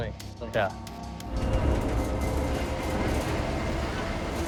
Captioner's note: machinery rumbling